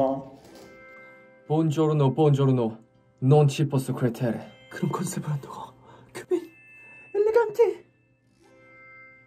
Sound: speaking Italian

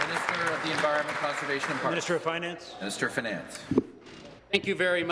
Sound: applause

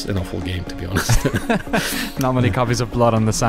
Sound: laughing

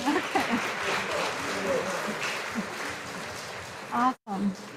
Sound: audience applauding

